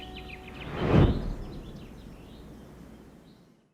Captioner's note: logo whooshes